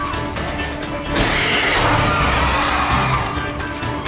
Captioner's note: shriek